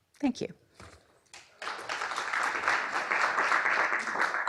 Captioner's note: applause